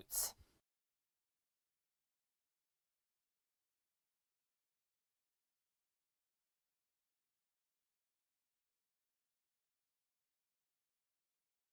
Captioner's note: no Sound Present